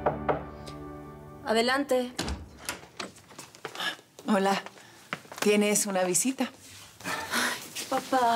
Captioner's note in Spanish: Toques en la puerta